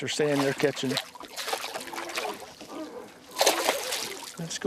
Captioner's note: splashing